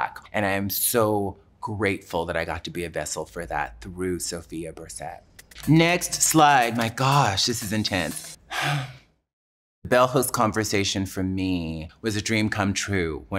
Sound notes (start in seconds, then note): 8.4 sighs deeply